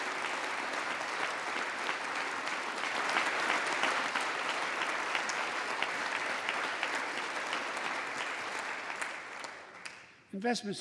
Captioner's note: applause